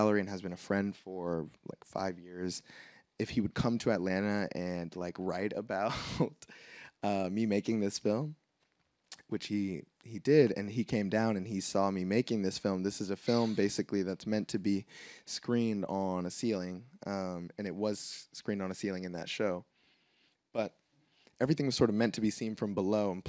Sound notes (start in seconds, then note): 5.9 laughs